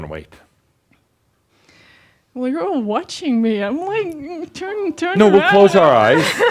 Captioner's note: she chuckles